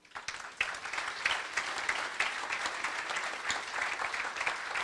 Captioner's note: applause